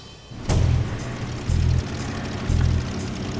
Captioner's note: vehicle approaching